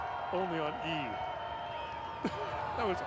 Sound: laughter

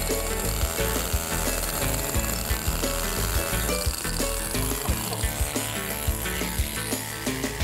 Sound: chiseling

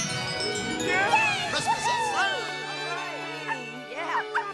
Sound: all cheering

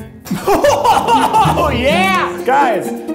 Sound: laughs

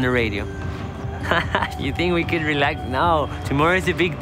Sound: laughs

